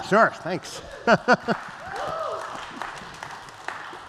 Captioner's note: applause